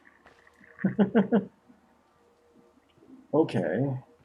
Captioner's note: chuckles